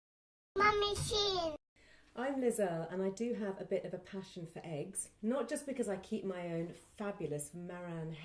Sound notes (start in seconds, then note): 0.8 kid voice